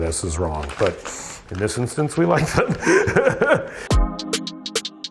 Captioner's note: laughs; funky music